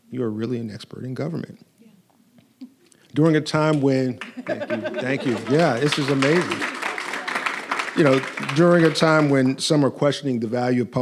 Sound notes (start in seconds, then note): 6.8 audience applauding